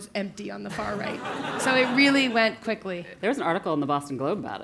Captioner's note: laugh